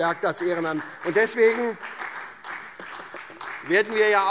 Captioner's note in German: Beifall SPD